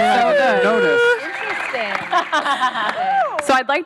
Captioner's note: laughing